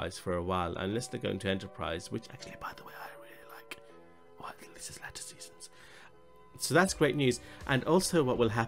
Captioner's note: whisper: which I thought was great, well the later seasons